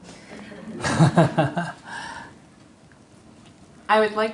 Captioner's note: /Audience Laughter